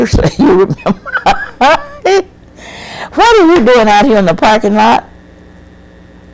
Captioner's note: laughs